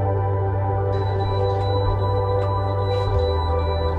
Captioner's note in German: piepst